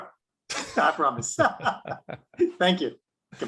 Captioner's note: both laughing